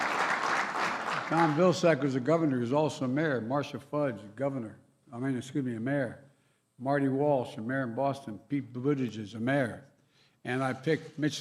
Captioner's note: cheers and applause